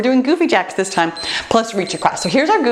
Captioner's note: timer beeps